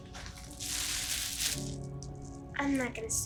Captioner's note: bag rustling